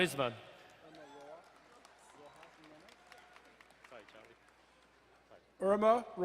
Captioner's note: crowd cheering and applauding